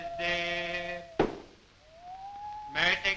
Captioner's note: hammer strikes